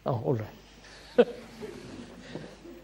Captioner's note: laughter; laughs